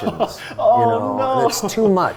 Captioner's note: laughing